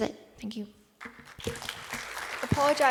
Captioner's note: applause